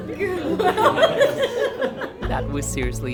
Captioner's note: laughing